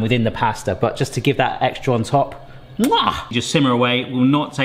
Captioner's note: kisses